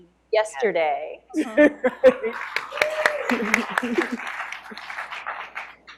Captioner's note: applause